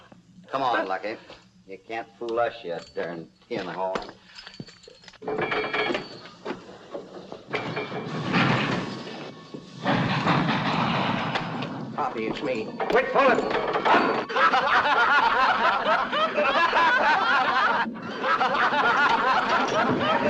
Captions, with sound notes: Come on, Lucky. You can't fool us yet, darn tinhorn. [ WAGON CLANGING ] [ RATTLING ] [ TRAIN CHUGGING ] Hoppy, it's me. Wait for me! [ LAUGHTER ]